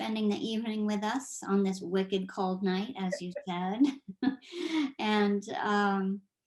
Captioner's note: chuckles